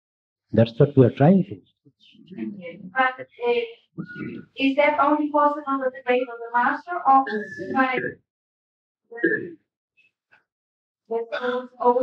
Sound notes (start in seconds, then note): 1.4 laughs; 7.2 coughing